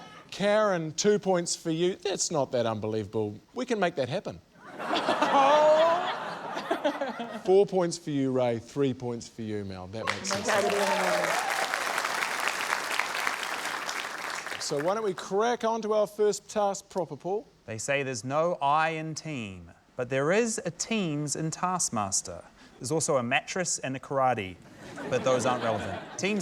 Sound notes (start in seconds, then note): 4.6 laughter; 12.7 cheering, applause